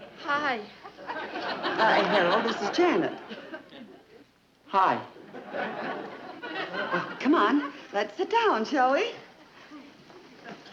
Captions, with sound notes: (audience laughing) - Harold, this is Janet. - Hi. (audience chuckling) - Come on, let's sit down, shall we?